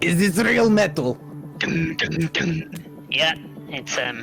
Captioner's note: tung tung tung